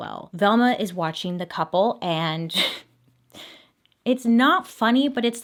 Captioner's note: chuckles